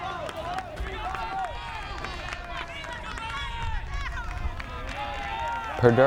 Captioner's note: fans yelling and clapping